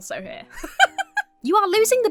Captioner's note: laughs